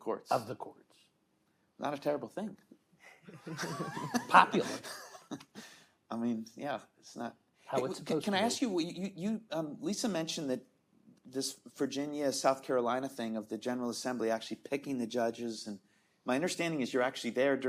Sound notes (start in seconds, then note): 3.3 all chuckling